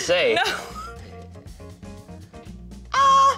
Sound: laughs

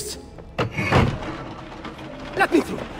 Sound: mechanism moving

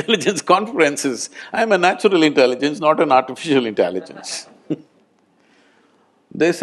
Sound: laughter

